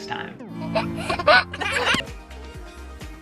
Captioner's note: laughing quietly; upbeat music